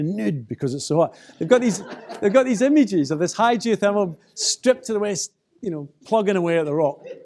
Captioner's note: laughter